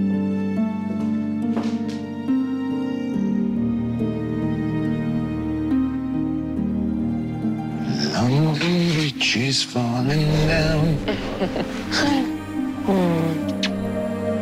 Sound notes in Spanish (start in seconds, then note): 8.4 Vicente tararea; 10.6 Risas